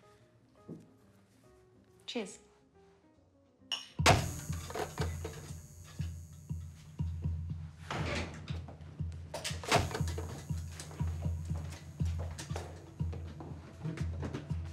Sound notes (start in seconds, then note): 4.0 bulb buzzes; 4.2 glasses clink; 4.3 suspenseful music